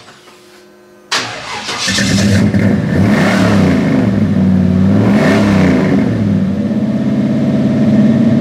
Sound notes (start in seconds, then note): 1.1 engine starts